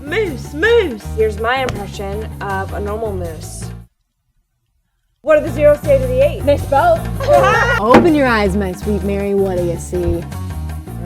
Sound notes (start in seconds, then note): 7.2 laughing